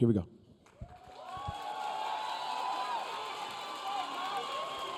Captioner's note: audience cheering